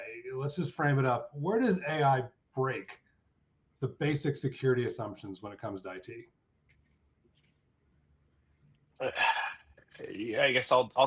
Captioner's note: sighs